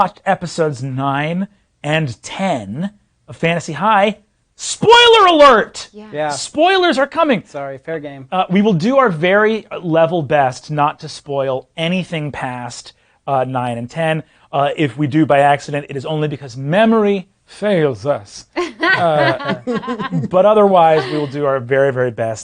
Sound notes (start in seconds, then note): 18.6 others laughing